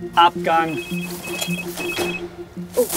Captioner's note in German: Handyklingeln